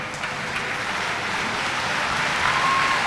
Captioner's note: applause